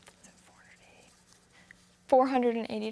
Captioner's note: whispering